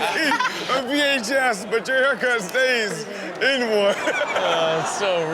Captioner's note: Chanel and audience laughing; laughing